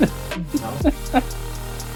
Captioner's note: laughing